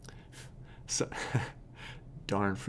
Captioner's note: laughs